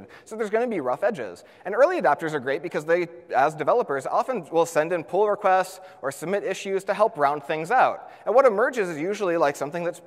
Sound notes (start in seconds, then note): none